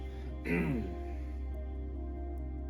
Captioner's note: clears throat